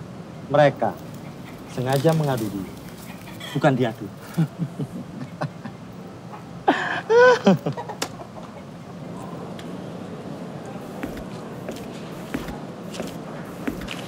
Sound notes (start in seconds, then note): 4.1 CAK JON laughs